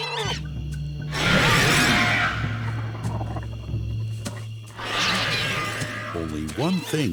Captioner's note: large dinosaur roars